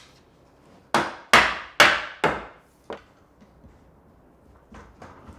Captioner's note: mallet bangs repeatedly